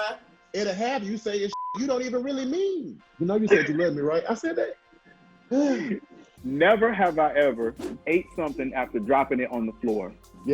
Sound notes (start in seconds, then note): 1.5 beep; 5.5 sighs